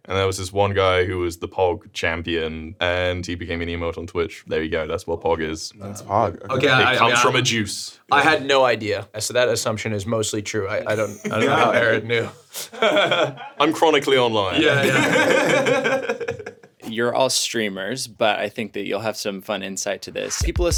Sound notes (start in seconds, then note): 14.5 group laughing